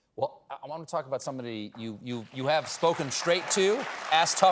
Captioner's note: applause